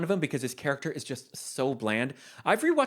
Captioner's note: none